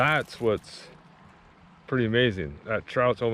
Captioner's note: fish thrashing